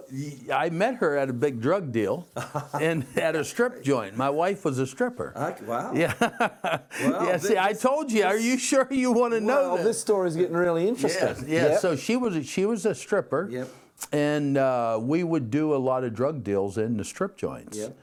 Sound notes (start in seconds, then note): 5.9 laughing